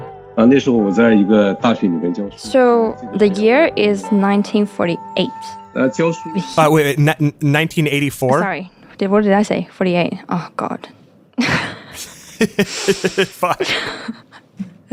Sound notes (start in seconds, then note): 0.9 speaking Mandarin Chinese; 11.4 laugh